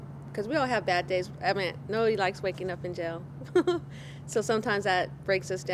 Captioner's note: chuckles